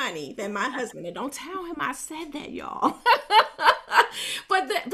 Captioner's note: chuckles happily